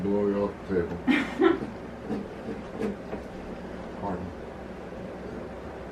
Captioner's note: laughs